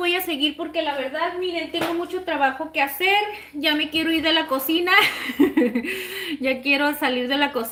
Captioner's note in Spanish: risas